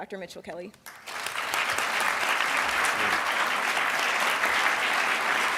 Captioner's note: audience applauds